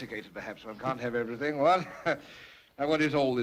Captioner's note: laughs